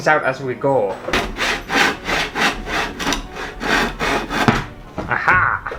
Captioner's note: saw Sounds